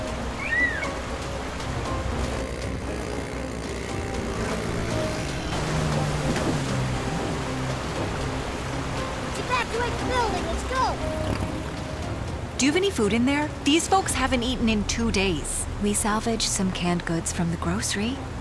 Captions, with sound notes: (bird crying) (motor revving) (boat revving) Evacuate the building; let's go! Do you have any food in there? These folks haven't eaten in two days. We salvaged some canned goods from the grocery.